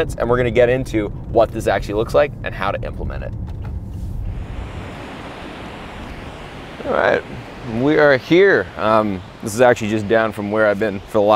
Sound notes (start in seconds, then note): 4.0 waves breaking